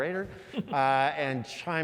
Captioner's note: laugh